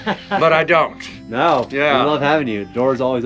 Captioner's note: laughing